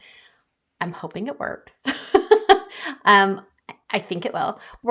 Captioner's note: chuckles